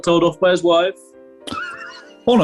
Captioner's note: sniggering